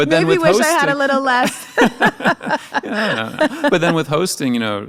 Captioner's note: both laughing